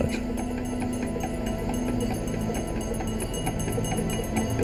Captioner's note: bell ringing